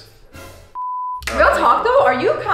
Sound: beep

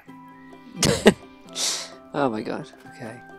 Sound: laughs

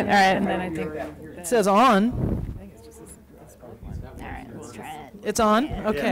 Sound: background chatter

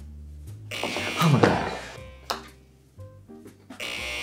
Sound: buzzer rings

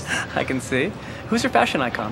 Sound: chuckling

